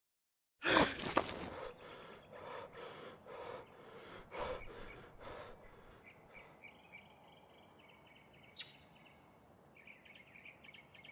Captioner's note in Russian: тяжелое дыхание